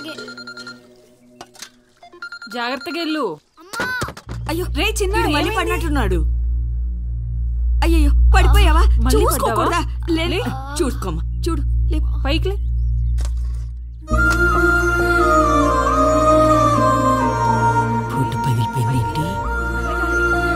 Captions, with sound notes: Go carefully. -Mom... -[Thuds] -Hey Chinna, what happened? -I think he fell down again. Oh my God, you fell down. Can't you go carefully. Get up... Why did mirror broke? You get up, get up slowly.